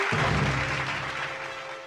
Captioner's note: audience applauding